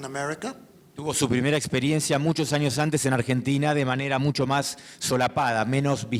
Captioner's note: speaking in foreign language